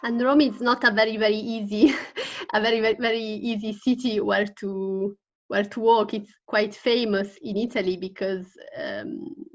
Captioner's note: she laughs